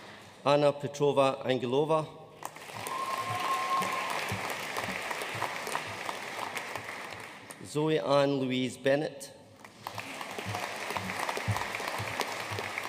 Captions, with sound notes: Anna Petrova Angelova. (AUDIENCE CHEERING AND APPLAUDING) Zoe Ann Louise Bennett. (AUDIENCE APPLAUDING)